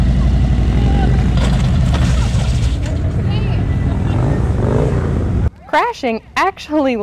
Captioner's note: motorcycle roaring; motorcycle clanking